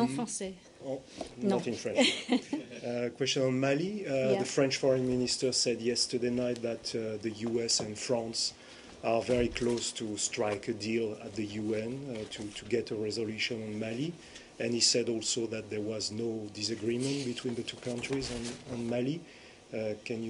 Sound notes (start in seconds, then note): 2.0 laughter